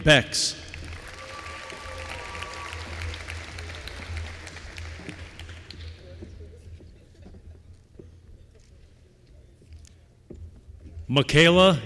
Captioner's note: applause